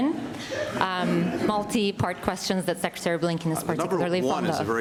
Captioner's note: laughter